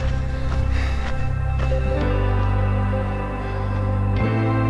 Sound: panting

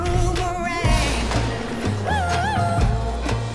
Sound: splash

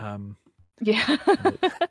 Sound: laughing

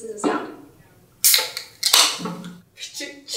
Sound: can opening; imitates can opening

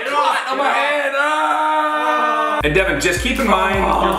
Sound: shouting

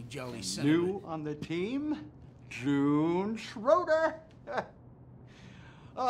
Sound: chuckles

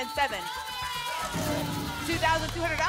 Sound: cheering

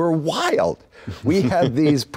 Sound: laughing

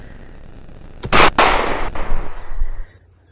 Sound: gunshot, static stops abruptly

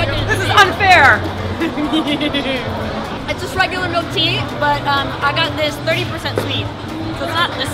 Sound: evil Cackle

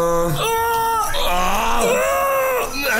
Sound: random male orgasams

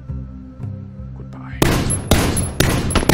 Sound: whispers; gunfire

